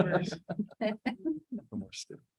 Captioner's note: laughs